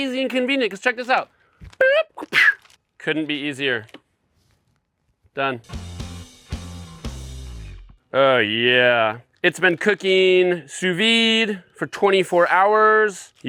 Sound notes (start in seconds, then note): 1.8 vocalizes; 5.7 upbeat rock music